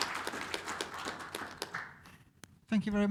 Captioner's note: applause